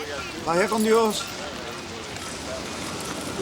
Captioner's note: Crecencio speaks Spanish